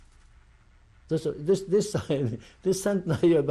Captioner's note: laughs